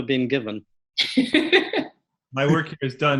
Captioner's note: laughs